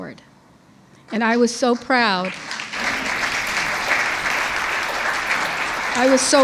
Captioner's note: audience applauds